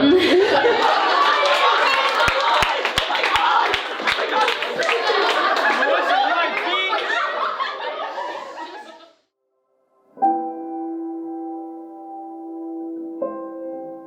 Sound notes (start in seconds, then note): 0.0 fading clapping and laughter; 9.7 emotional music